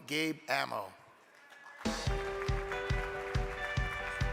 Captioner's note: crowd clapping; uplifting music